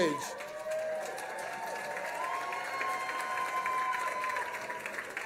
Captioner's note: cheers & applause